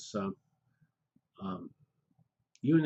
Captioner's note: pause